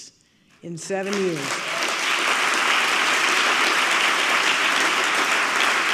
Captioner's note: audience clapping